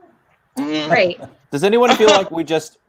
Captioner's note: laughing